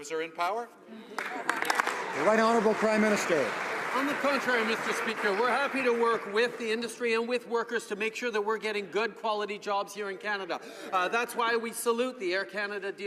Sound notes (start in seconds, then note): 4.4 some Applause